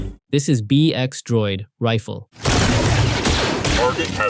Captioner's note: rifle